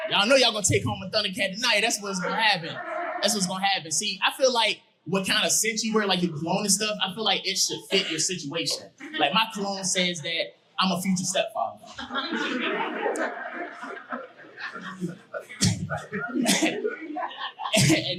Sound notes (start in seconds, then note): 11.8 audience laughing; 15.7 chuckles